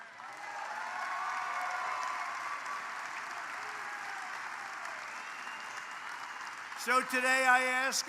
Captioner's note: applause